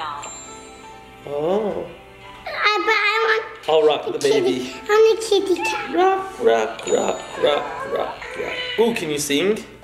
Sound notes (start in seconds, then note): 0.3 calm music; 6.2 meow